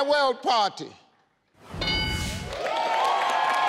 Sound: board dings; audience applauding

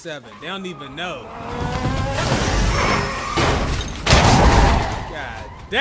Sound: car engine revs

